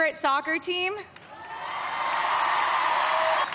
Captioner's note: cheering and applause